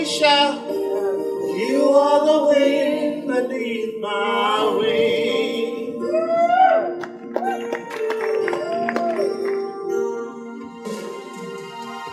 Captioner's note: audience applause